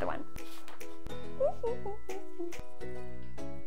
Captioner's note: humming; bright music